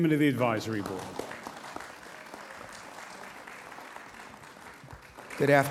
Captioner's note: audience applauds